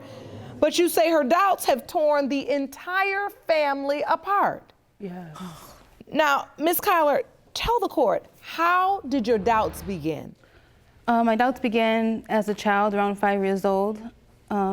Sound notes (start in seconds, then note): none